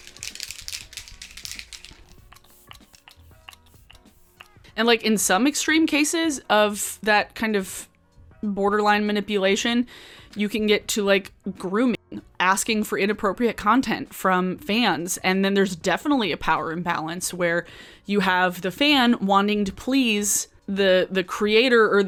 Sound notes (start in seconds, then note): 0.0 object jiggles; 2.4 spray whooshing